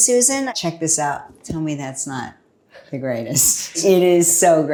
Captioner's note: chuckles